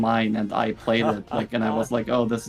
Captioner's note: laughs